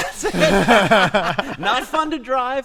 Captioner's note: laughter